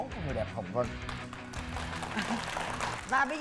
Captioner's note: applause